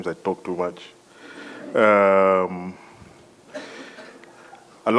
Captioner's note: laugh